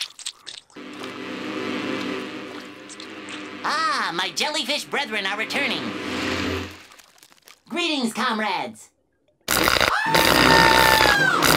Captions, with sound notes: [buzzing] Ah, my jellyfish brethren are returning. Greetings, comrades! [screaming]